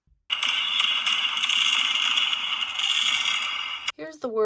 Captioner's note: fireworks bang